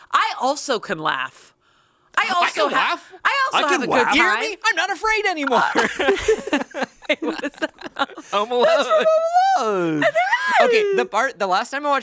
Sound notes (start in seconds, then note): 5.5 everyone chuckles